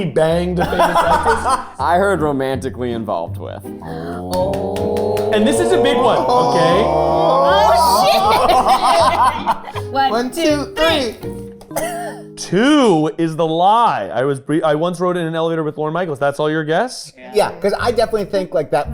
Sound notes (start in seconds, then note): 3.8 group awing; 9.2 laughing